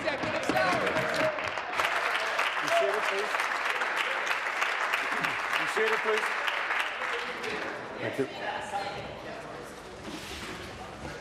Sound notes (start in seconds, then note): 4.6 applause